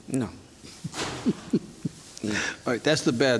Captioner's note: judge laughs